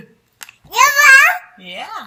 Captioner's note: baby chattering